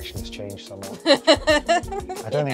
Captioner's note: laughter